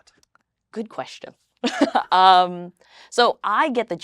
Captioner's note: laughs